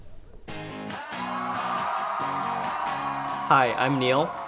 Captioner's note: audience cheer